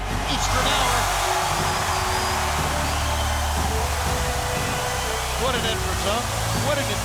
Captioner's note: crowd cheering continues; fireworks hissing